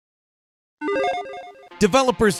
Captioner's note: logo beeps